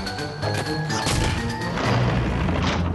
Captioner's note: thud; rumble